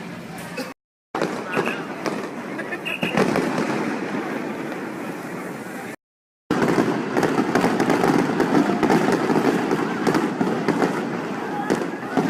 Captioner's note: fireworks exploding